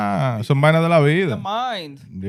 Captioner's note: speaking In Foreign Language